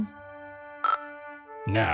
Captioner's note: CB radio mic beep